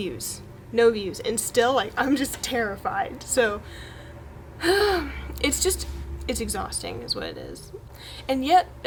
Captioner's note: sigh